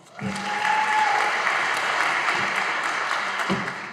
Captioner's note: audience applauding